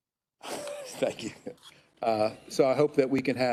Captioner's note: chuckles